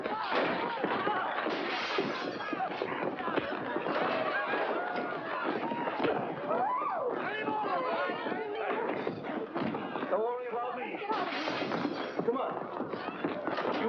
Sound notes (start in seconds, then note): 1.3 smash; 1.5 glass smashing; 6.4 women squealing; 7.3 commotion; 11.2 glass smashing in background